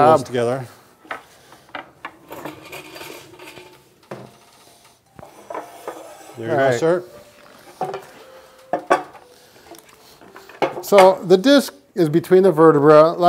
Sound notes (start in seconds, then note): 2.6 chair scraping